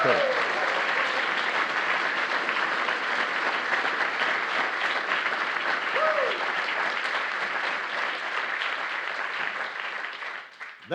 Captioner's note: applause